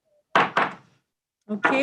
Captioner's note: gavel being struck